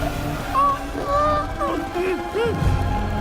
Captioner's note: Mack Mallard whimper audio